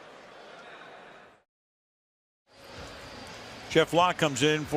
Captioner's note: pa announcement